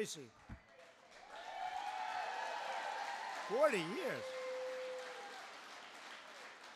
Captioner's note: applause